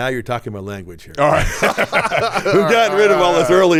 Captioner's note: both laughing